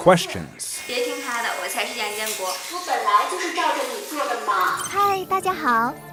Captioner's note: speaking foreign language